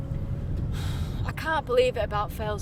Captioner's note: car engine noise; sighs